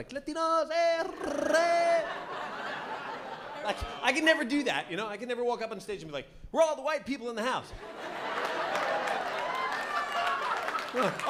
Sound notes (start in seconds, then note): 1.0 rolls his tongue; 1.1 laughter; 7.8 laughter